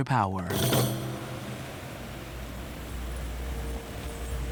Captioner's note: waves crashing on shore